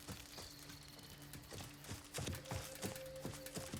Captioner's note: whistles